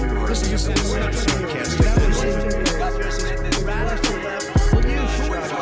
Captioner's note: reporters consecutively chattering